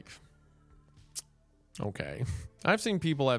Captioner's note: clicks tongue